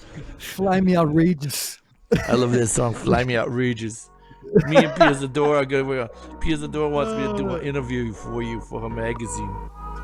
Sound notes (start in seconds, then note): 2.1 chuckles; 4.4 laughs